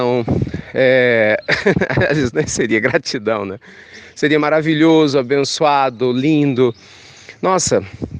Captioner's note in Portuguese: risos